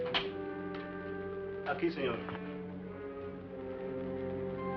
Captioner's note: speaking spanish